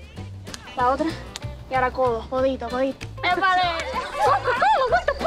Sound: Esti speaks in Spanish

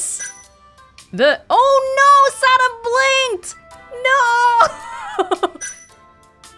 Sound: chuckles

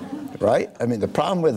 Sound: laughing

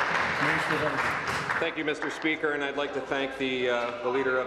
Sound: applause

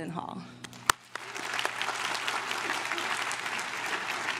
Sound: crowd claps

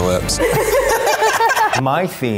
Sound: laughing

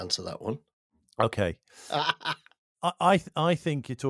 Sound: laughs

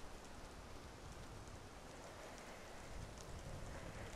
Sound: wind blowing

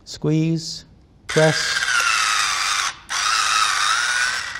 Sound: buzzing

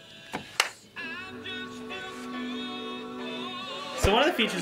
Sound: claps

